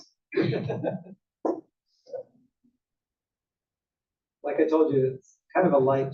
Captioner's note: laugh